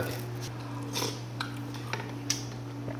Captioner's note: slurp